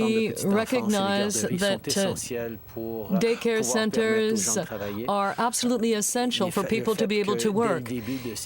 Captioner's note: speaking french